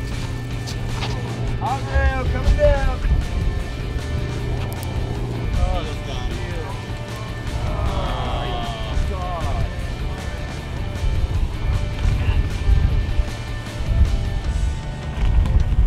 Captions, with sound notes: Up rail, coming down. It's gone. [men sighing disappointedly] [wind blowing] [waves splashing]